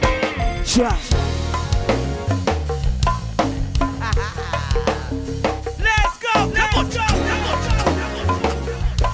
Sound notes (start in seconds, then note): 1.7 laughs